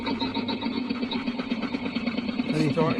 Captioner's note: engine start sound effect